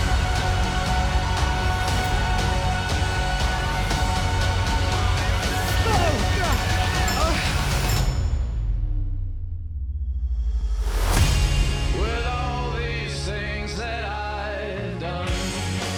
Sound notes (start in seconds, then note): 0.2 dramatic music playing; 5.4 grunting; 8.2 music stops